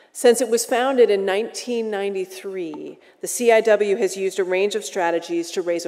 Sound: none

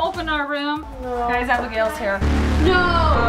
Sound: buzzing

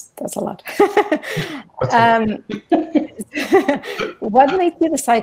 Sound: giggling

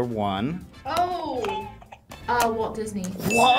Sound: buzzer rings

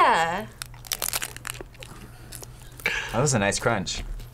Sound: tacos crunching

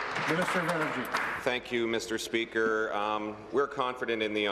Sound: applause

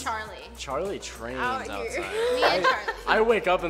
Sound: laughing

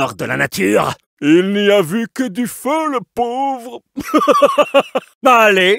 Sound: laughs

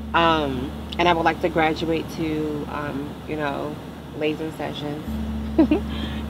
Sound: giggles

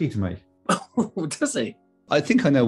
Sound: laughs

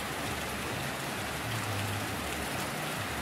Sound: rain Sounds

